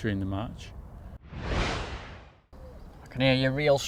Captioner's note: whooshing